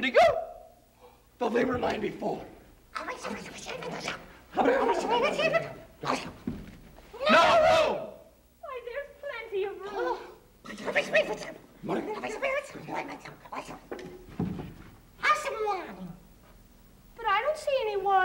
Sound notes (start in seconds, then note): 2.6 all whispering; 9.7 all whispering